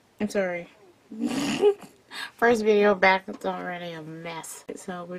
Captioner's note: scoffs into a mild chuckle